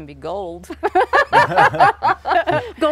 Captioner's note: everyone laughs